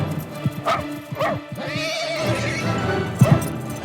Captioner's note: dramatic music; dog barks